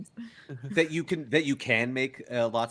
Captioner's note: Cornette laughs